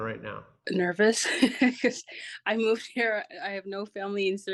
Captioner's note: giggles